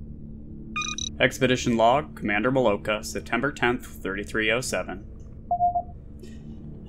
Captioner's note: computer beep